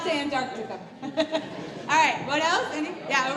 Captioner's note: laugh